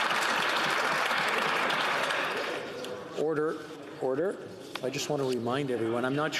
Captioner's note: some Applause